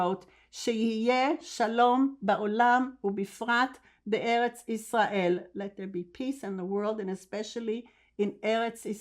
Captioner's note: hebrew